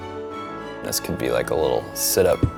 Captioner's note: bricks smashing